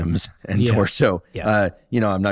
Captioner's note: laughs